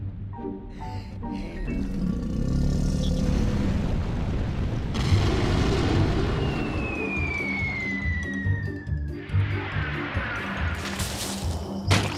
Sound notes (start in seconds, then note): 0.7 sighs; 1.7 volcano growls; 5.2 bang; 6.2 falling object whistling; 10.7 leaves rustle